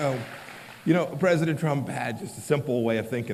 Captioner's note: applause